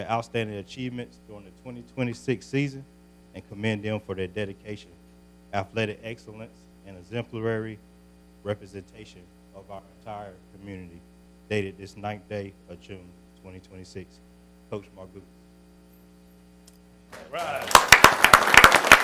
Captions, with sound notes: outstanding achievements during the 2026 season and commend them for their dedication, athletic excellence, excellence and exemplary representation of our entire community. Dated this 9th day of June, 2026. Coach Margupis. (applause)